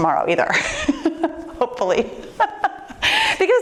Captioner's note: laughs